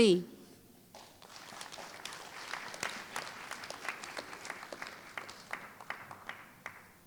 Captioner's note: applause